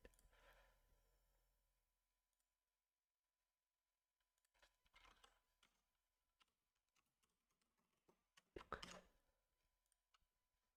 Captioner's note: silence